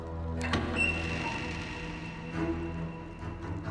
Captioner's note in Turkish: Kapı Açılma Sesi